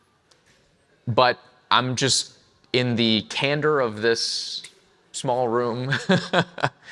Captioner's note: chuckles